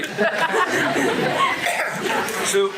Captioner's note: crowd laughter